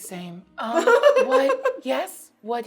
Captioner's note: laughing